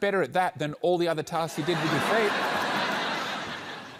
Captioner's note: laughter